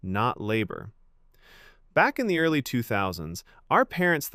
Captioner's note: thoughtful